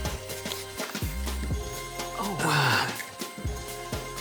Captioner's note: whistle blows